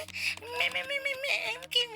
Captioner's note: mimicking mimicking